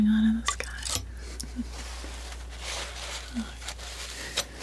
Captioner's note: scratching